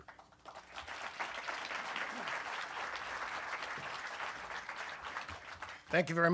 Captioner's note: applause